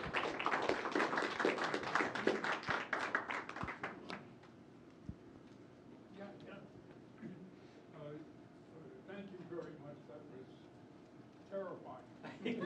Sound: applause

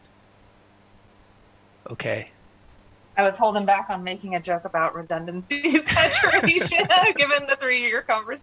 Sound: laughter

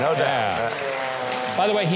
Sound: audience applauding

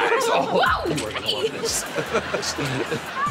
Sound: chuckles

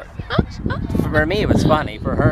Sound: chuckles

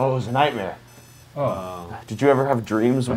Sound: alarm beeping

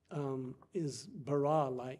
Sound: speaking foreign language

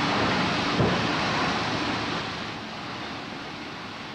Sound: thud

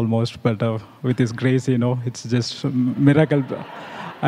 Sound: laughter

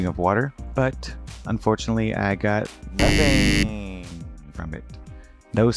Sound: loud buzzer

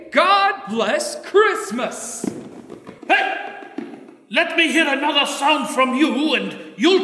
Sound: Cratchit claps

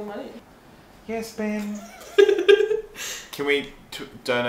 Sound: giggles

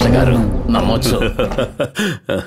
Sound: laughs

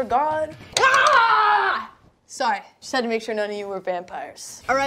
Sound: screams

